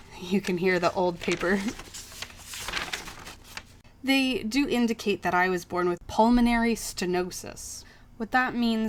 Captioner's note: paper crinkles